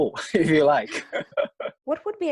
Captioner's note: laughing